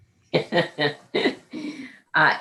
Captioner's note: laughs